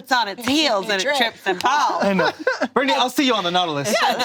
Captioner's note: laughs